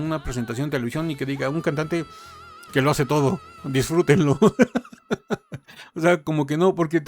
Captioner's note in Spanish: risas